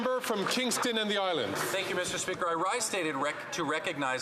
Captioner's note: some Applause